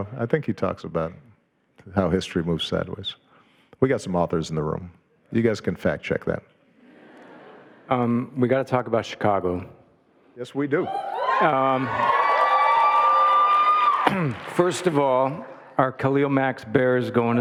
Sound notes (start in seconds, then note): 6.8 audience laughing; 10.8 audience cheering